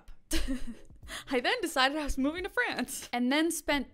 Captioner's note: laughs